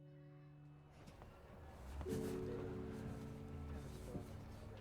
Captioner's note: engine rumbling